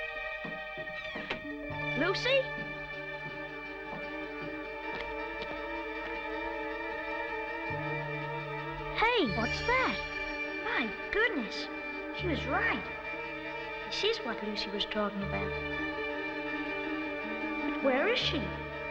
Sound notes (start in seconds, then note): none